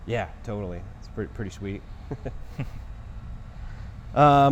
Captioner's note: laughing